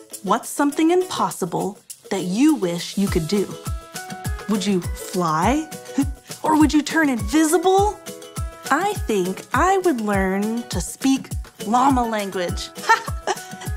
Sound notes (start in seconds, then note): 5.6 chuckles; 12.8 laughs